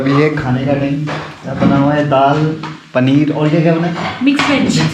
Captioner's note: pulses